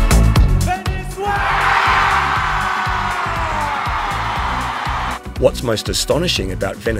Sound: crowd cheering

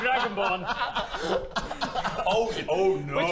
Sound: laughs

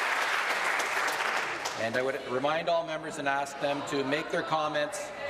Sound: applause

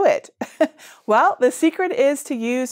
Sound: laughs

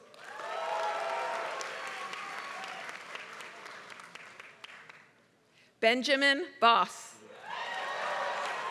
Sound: applause; applause

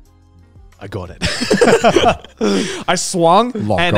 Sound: laughing

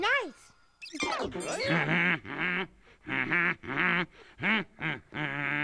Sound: humming elmo's world theme

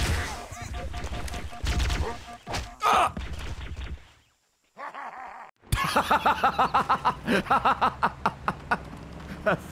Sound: Elite laughs; laughs

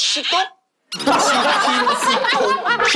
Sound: laughing

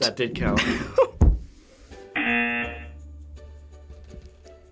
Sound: laughs; buzzer rings

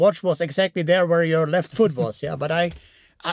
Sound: laughs

